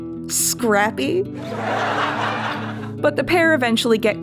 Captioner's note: canned Laughter